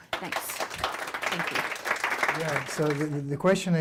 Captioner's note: clapping